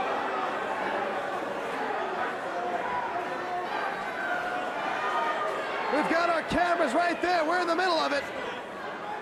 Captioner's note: crowd cheering